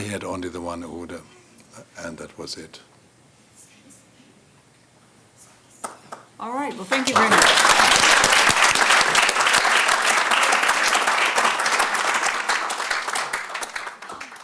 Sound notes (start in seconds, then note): 7.4 applause